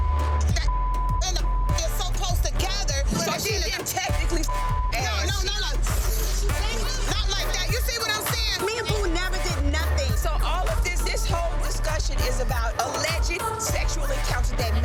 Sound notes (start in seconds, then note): 0.0 beep; 4.4 beep; 6.3 woman slurping